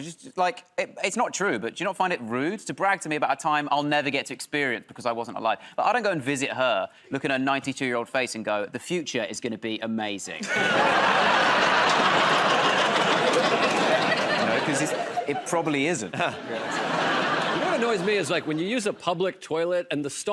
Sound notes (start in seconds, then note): 10.4 laughter and applause; 16.4 laughter